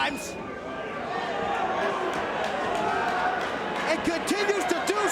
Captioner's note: spectators cheering